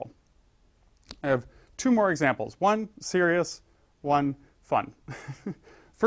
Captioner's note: laugh